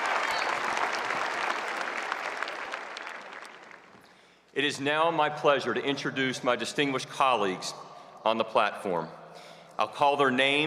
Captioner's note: cheers and applause